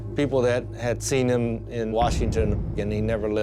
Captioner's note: gun shots